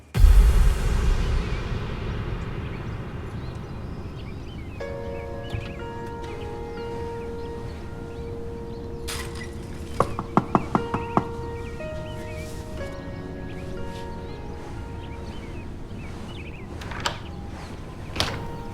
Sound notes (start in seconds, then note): 0.0 dramatic bass; 5.0 gentle piano music; 10.3 knocking on door